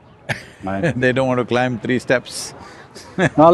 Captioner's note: Sadhguru laughs; laughs